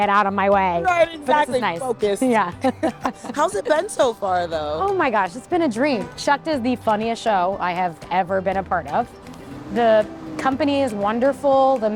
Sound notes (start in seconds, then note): 2.6 both laugh